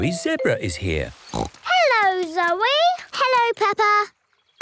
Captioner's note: snorts